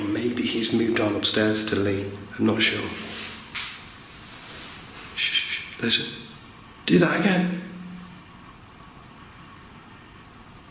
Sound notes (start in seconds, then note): 3.9 faint tapping